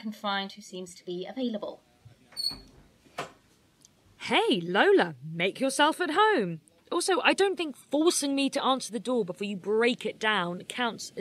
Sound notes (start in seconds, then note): 2.3 door squeaks open; 3.6 sarcastically